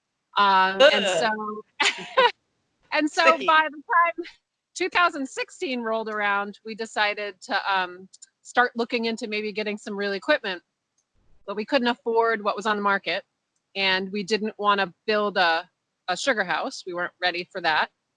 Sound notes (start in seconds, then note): 0.7 laughs